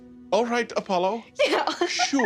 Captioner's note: calmly